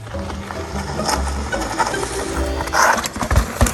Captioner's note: bike scraping